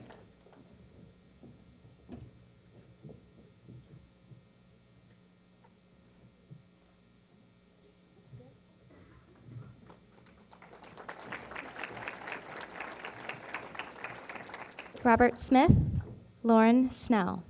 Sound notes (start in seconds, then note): 9.8 applause